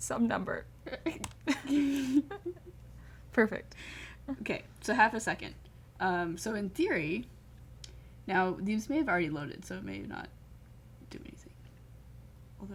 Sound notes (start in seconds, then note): 1.4 laughter